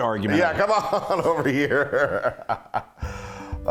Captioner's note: laugh